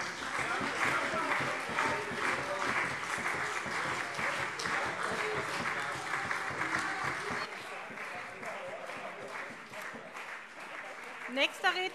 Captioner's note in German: Beifall SPD und CDU